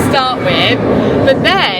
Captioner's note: rollercoaster swooshing